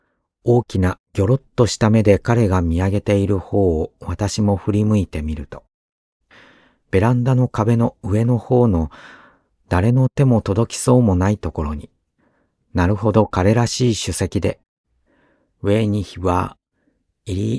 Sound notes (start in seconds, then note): 15.9 in German